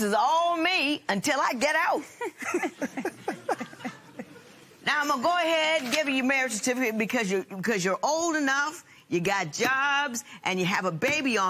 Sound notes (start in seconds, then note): 2.1 laughter